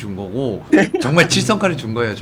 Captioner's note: laughing